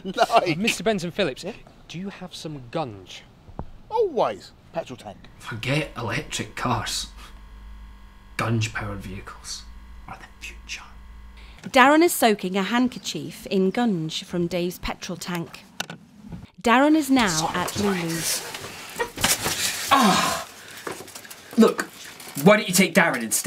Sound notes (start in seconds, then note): 19.8 grunts